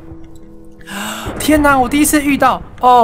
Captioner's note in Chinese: 吸氣